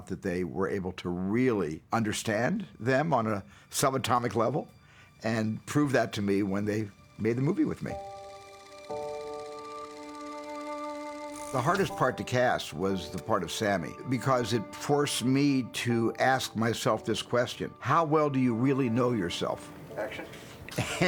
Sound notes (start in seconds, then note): 8.0 camera whirring